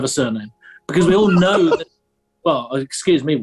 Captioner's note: sniggering; giggling